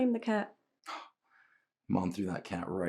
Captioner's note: Terry scoffs